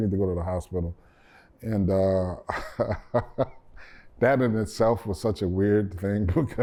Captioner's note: laughter